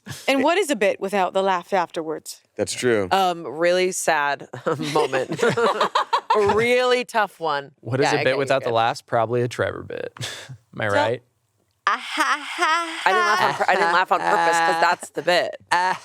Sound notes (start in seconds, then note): 4.5 all laughing; 11.9 fake laughs